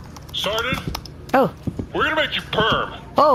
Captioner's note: excited